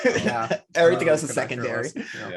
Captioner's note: laughing